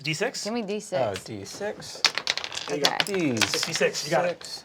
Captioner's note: dice clattering